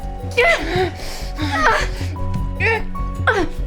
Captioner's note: both grunting